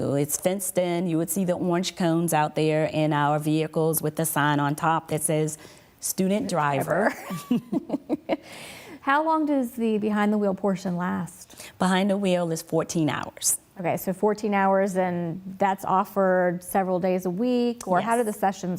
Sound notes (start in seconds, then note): 6.9 laughs